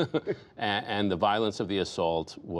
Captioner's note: laughter